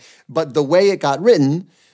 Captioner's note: none